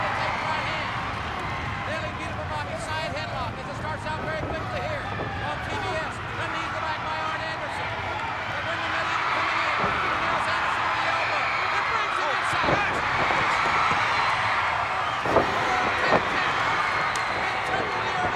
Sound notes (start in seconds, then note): 0.0 commentators exclaim; 9.2 crowd cheers